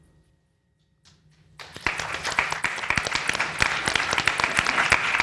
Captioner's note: people clapping